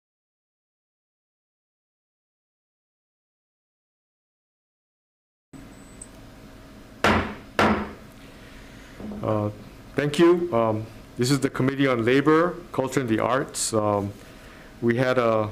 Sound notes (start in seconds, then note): 7.0 gabble banging